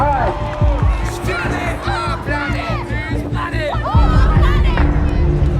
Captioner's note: group chanting